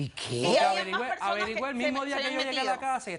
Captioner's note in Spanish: Hablan al unísono